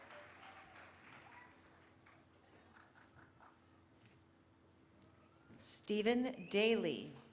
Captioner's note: cheering